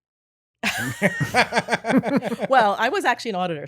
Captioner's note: laughing